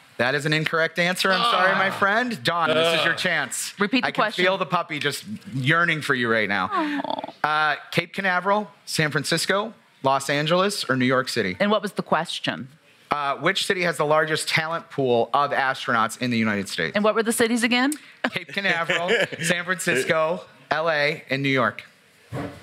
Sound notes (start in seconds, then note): 18.3 laughs